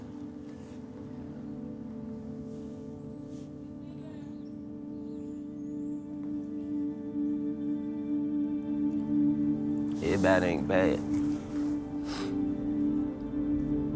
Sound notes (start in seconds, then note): 11.0 sniffles